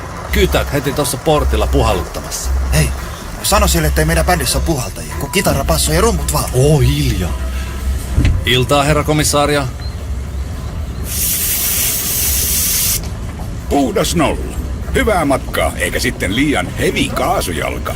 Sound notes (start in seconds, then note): 11.0 blowing into breathalyser